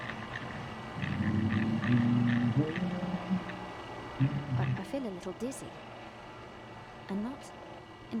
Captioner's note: humming